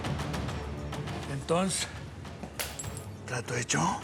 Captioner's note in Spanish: ruido al romperse el vaso